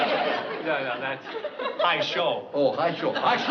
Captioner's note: japanese